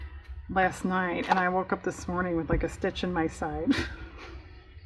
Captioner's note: laughs